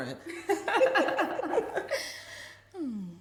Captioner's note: laughing